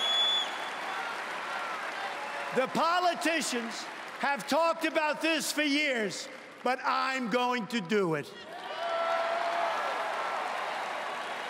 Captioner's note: cheering and Applause